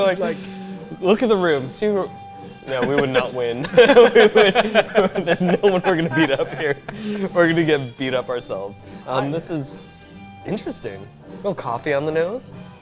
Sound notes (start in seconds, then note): 2.6 laughing